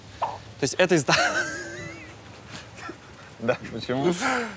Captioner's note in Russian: оба смеются